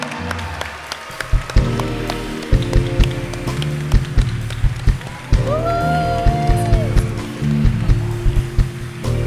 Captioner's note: cheering